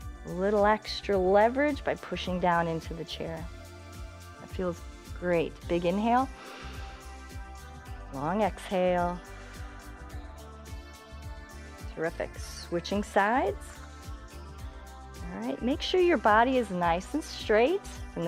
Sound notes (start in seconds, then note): 9.0 exhales